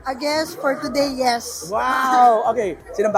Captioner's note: chuckles